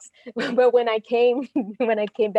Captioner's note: laughs